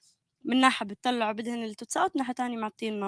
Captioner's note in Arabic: لغة أجنبية